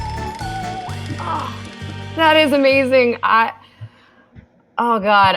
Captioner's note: groans